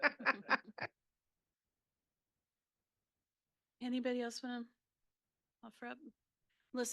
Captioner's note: laughing